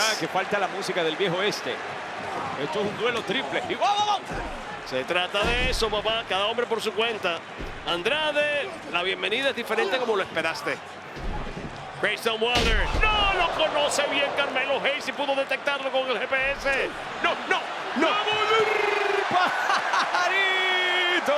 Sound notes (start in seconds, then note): 18.5 laugh